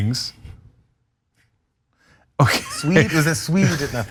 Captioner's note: laugh